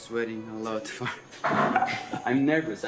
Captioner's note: laughs